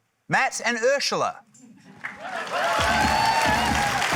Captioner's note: cheering, applause; heavy hip-hop beat plays